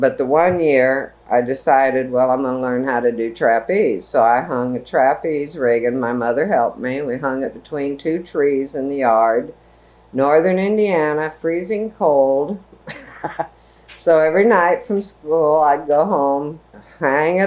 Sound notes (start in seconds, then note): 12.8 laughs